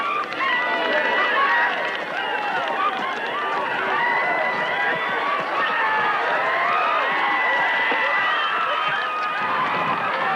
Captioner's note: spectators cheer and whistle